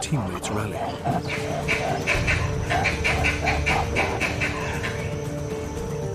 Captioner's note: squealing; suspenseful music